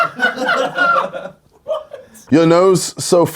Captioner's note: laughs